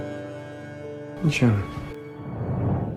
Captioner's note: voiceover